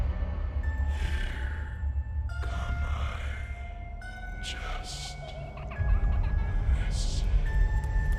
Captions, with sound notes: - [Creepy Voice] Here come I just listen.